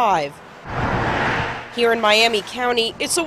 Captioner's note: sound of cars